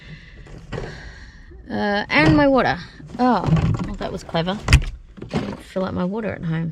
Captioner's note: sighs; things clatter in fridge